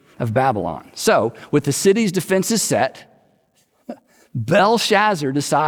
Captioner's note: chuckles